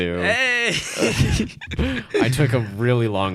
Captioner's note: giggling